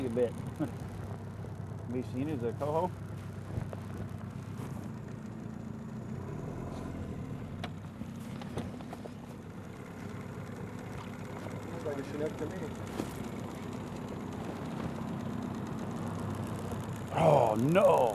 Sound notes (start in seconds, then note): 0.5 chuckling; 5.1 boat engine revving; 14.9 boat engine revving